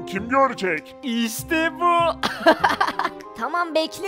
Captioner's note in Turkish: Gülme sesi